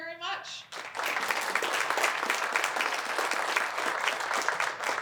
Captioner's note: applause